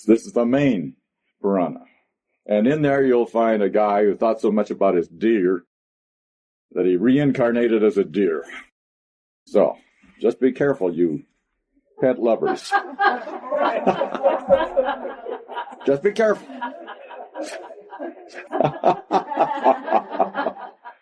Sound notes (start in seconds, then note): 12.1 laughter